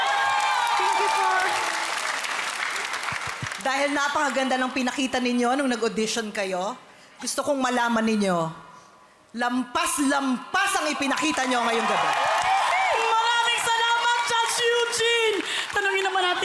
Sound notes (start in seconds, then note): 0.0 loud cheering, applauding; 12.8 loud cheering